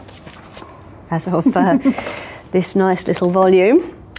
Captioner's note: laugh